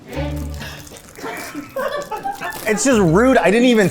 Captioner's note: crew laughing